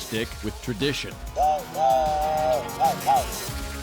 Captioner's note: imitating train whistle